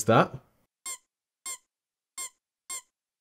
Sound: squeaks

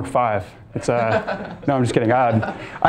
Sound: and students laughing

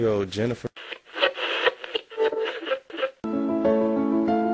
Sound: static; melancholy music

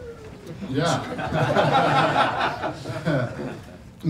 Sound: laughter

